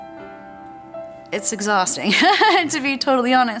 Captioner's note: laughs